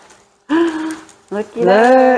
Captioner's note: gasp